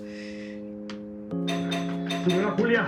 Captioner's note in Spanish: Timbre de la puerta